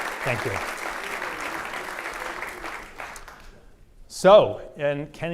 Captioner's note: audience applause